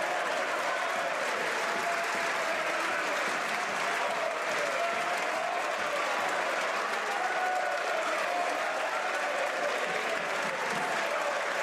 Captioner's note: some Applause